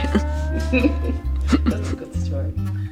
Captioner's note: laughing